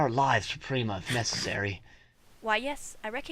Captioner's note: nom nom